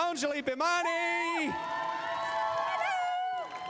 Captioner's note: crowd cheering